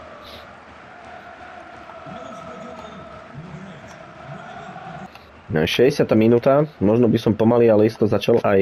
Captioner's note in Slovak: Potlesk